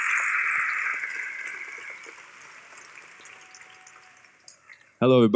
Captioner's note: applause